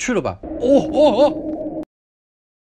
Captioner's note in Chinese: 還是奇怪的呻吟聲